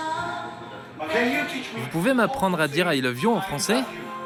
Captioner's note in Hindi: फ्रेंच में